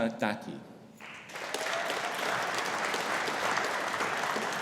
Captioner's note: audience applauding